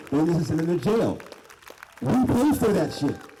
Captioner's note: applause